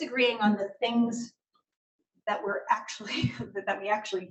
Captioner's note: laughs